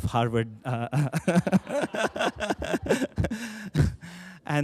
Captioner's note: laughter